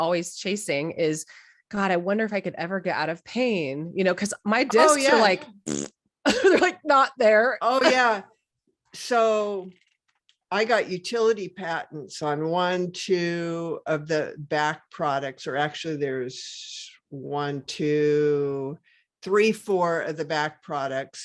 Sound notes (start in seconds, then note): 4.7 oral sound